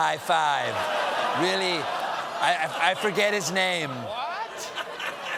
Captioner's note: laughter